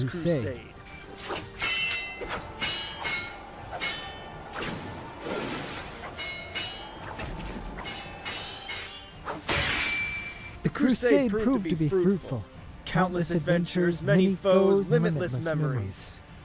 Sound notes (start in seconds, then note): 0.5 steel clashes as the wind violently stirs